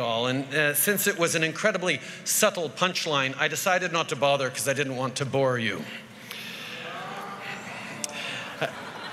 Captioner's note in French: Grognements